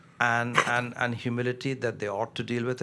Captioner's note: coughs